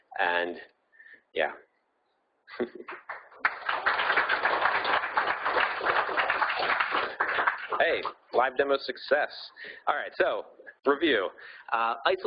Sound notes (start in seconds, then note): 2.5 laughing; 2.8 audience applauding